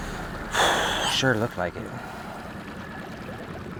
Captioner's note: exhales